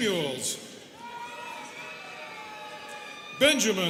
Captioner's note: students cheering